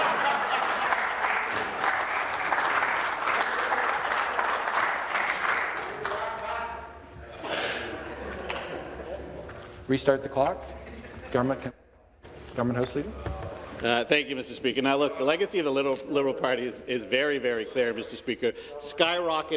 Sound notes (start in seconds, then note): 2.0 laughter; 5.4 applause